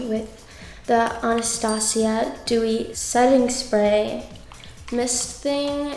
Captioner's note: bell chimes